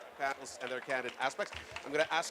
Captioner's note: applause